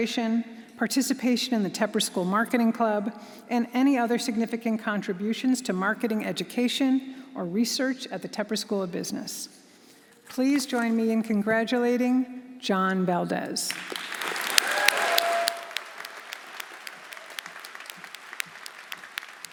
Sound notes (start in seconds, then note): 13.7 audience applauding; 14.0 audience cheering